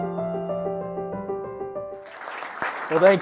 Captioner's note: applause